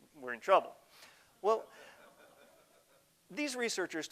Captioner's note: audience laughter